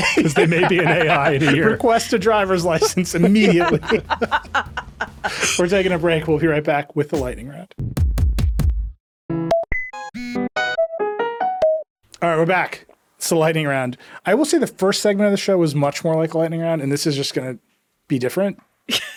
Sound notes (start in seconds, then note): 0.0 laughing; 4.0 all laughing; 7.9 bright music; 18.9 laughing